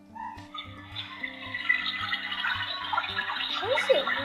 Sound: water trickling sound effect

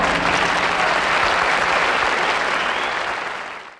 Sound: audience applauds

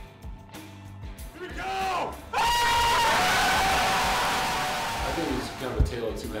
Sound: crowd noise throughout

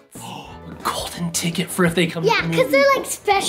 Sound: gasps

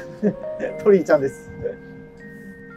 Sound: laughing

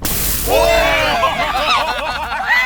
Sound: surprised and screams; laughs

